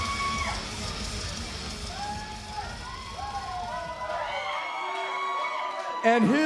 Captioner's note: crowd cheering